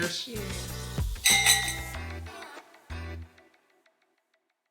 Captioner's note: glasses clinking